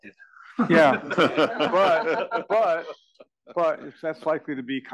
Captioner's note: laugh